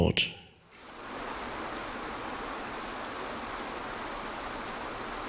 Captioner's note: water splashing